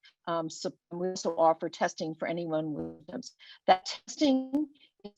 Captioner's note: web-call distortion